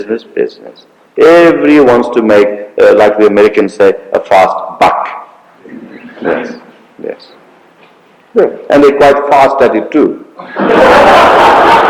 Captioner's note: laughter